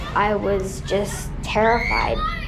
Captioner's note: screams